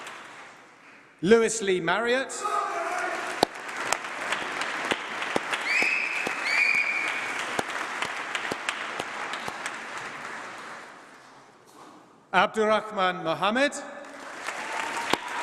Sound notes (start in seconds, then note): 5.8 applause; 14.0 applause